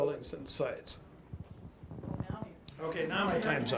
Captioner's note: audience laughs